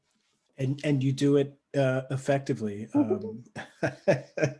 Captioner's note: laughs